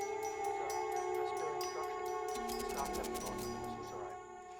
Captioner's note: muffled chatter